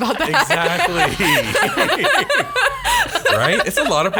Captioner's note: laughs